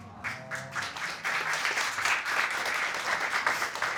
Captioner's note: applause